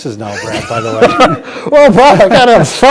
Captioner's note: laughing